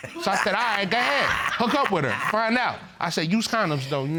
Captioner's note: chuckles